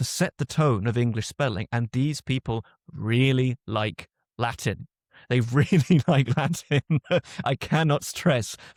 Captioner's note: laughs